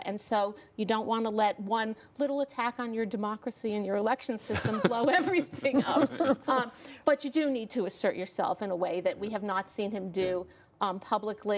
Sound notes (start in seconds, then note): 6.2 laughter